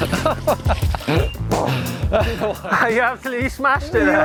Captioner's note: tires skidding; laughing